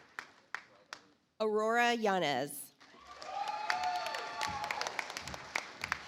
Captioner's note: audience applauds